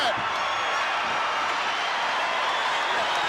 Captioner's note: crowd cheers